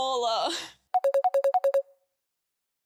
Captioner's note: incoming call